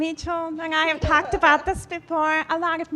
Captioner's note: laughing